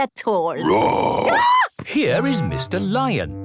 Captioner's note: roar, scream